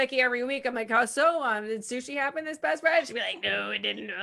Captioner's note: murmurs